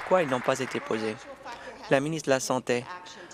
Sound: applause

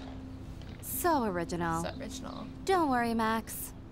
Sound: mocking

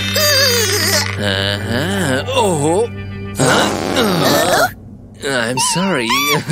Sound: whistles

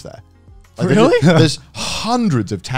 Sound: laughing

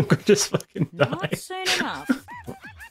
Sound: laughter

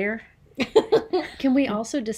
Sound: laughs

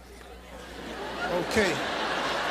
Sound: audience lightly laughing

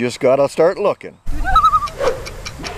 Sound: loon call

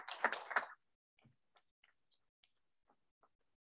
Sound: trustees clap

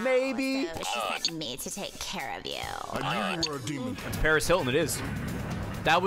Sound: nut button sound

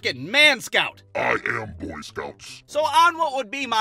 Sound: deep voice

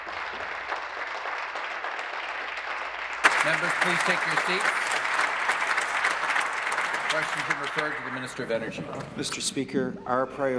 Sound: applause

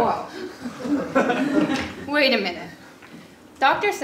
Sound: laugh

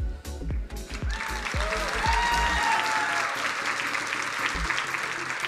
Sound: crowd cheering and applauding

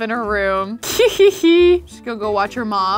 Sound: giggles

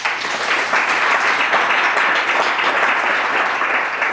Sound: clapping

